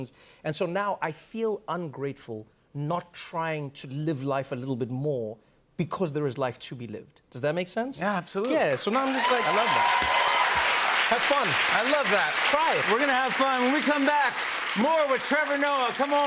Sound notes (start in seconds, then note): 9.8 cheers and applause